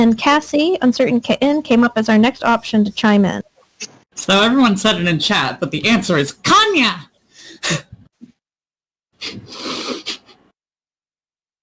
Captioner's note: nervous laughing